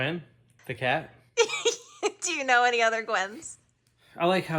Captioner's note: laughing